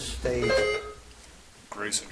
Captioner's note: buzzer chimes